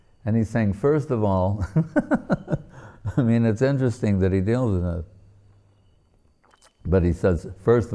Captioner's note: laughing